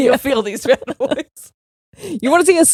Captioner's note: both laughing